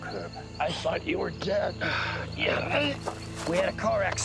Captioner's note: grunting